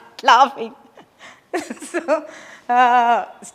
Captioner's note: laughs